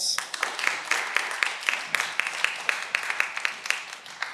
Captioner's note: cheering